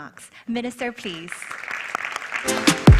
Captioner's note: applause